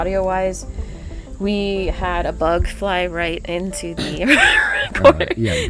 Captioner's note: wheezes